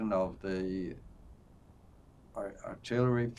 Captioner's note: none